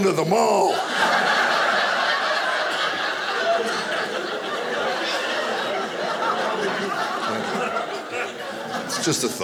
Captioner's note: audience laughing